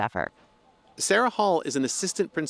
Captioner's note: voice-over